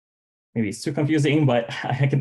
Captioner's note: chuckling